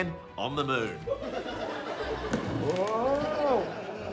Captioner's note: laughter